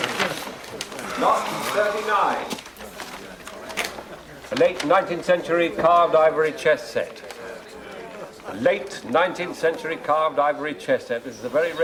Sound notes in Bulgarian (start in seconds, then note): 0.9 Въздишане